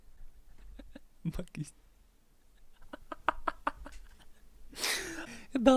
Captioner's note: laughing